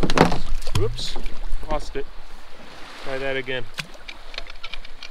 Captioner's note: clunk, splash